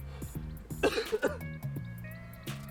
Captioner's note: polish coughing